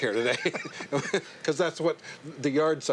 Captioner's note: laughter